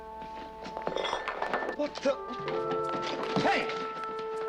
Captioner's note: dish clatters